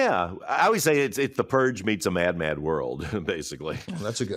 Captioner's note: chuckles